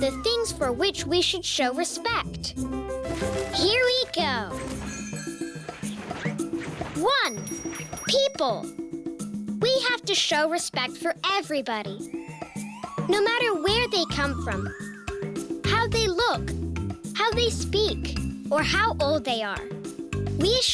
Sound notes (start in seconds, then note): 7.5 bell ringing